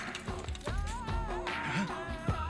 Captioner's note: tyres screeching